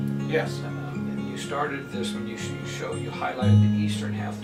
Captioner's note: male Voice